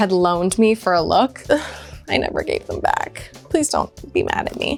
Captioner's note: sighs